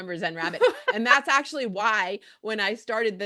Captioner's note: laughs